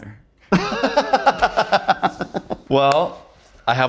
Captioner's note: both laughing